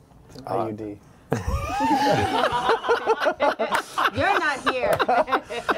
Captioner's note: laughter